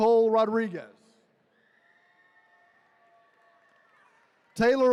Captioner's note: attendees cheering